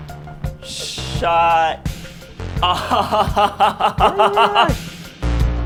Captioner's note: laughing